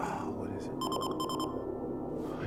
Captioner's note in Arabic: صفير إنذار